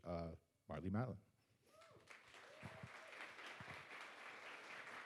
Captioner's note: audience applauds